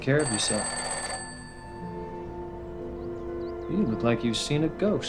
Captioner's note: phone ringing